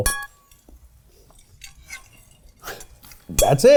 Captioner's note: spoon scraping